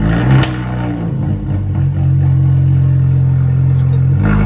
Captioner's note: exhaust popping; laughing